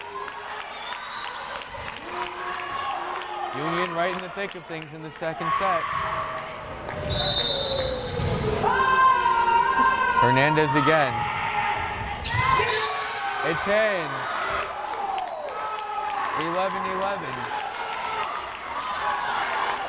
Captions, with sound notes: Union right in the thick of things in this second set. Hernandez again. It's in! (crowd cheering) 11-11!